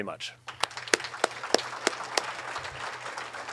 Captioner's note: applauding